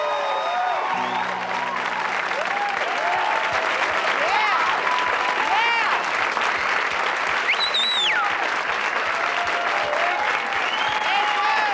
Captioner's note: audience applauds, hoots and whistles; applause